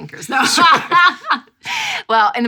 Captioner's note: laughs loudly